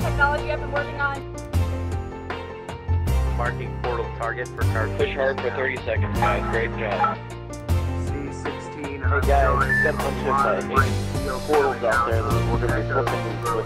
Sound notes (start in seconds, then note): 3.5 voiceover; 7.0 mumbled radio voice